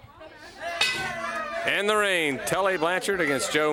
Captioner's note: bell ringing